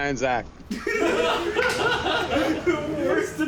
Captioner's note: and friends laughing